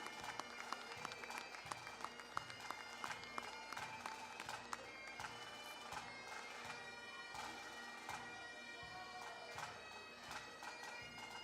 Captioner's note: cheering, applause